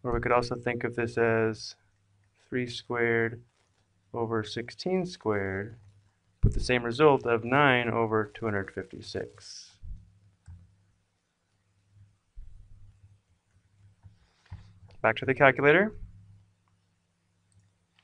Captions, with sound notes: Or we could also think of this as three squared over sixteen squared, with the same result of nine over 256. [pause] Back to the calculator.